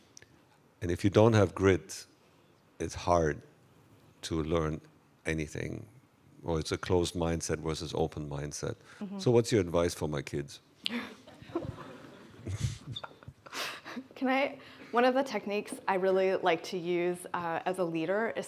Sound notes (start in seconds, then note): 11.4 everyone laughing